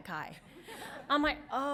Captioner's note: audience laughs